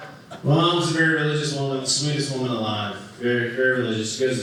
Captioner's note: none